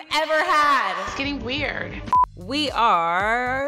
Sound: beep

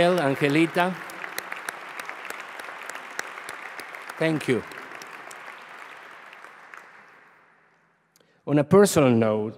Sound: applause

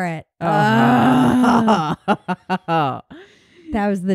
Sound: grumbling

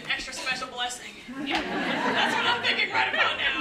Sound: laugh

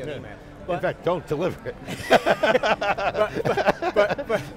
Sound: laughs

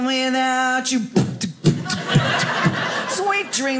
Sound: beatboxing

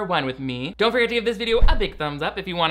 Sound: logo whooshing

